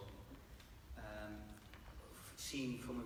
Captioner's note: none